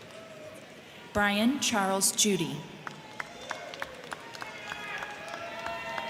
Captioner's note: crowd cheering